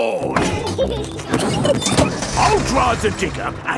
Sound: peppa and george laughing

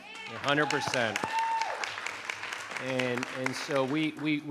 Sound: audience applauding

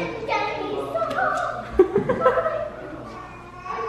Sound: laughing

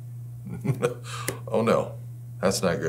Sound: laughs

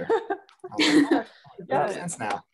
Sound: laughs

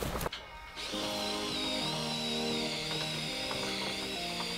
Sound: screwdriver whirring; upbeat music

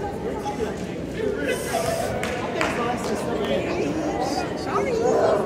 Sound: mild laughter and clapping

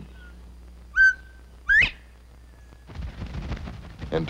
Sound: quail sounds

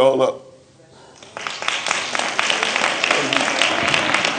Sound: applause

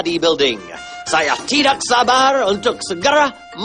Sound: non-english; non-english speech

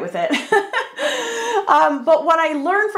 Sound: laughs

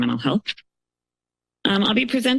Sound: pause

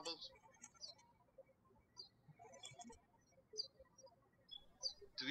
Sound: birds chirping

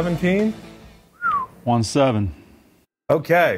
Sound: whistles

